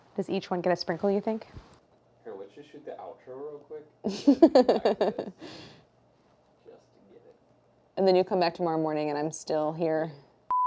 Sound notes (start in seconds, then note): 4.0 laughs